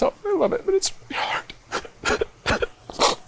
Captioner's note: cries